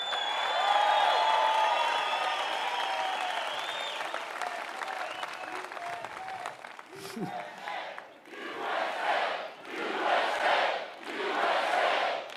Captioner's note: audience chants "USA"